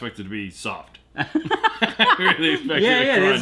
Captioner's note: laughter